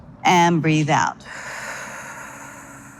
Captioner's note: exhales